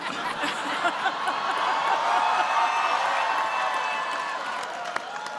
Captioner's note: cheering